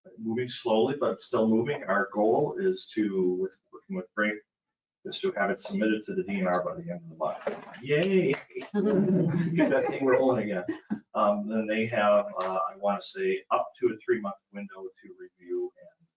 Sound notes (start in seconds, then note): 7.2 hands clapping; 7.8 sarcastically; 9.1 all laughing